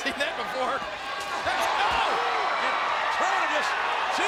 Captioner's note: crowd cheering